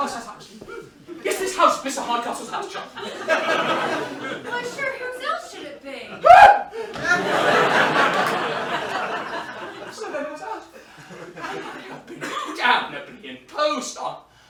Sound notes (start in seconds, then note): 6.2 marlow shrieks